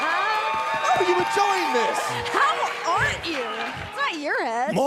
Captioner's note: laughing